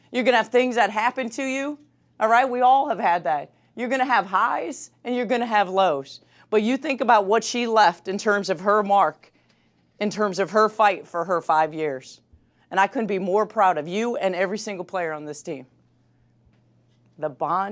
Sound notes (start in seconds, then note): none